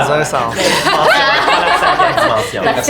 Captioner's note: group laughs